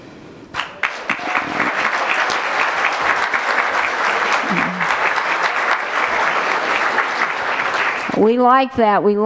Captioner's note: applause